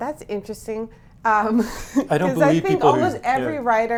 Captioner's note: laughs